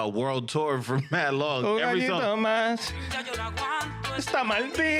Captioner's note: speaking In Foreign Language